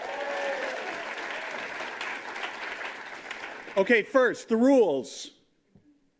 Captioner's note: applause